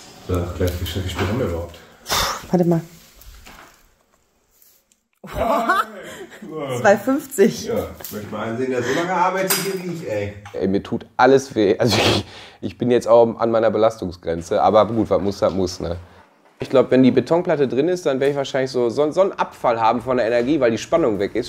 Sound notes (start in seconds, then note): 5.2 laughs